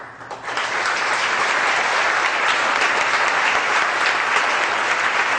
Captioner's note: audience applause